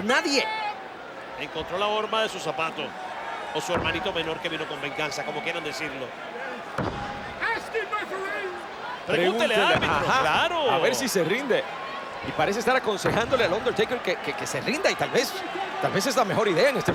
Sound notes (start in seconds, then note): none